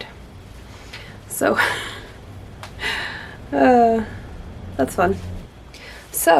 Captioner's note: laughs, amused sigh